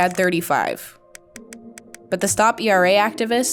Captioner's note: numbers click